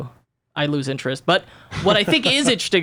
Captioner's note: laughs